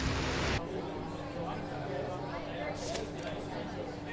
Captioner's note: customers talking